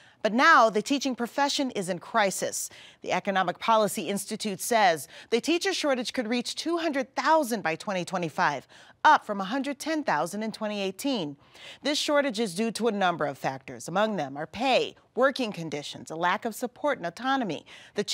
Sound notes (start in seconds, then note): none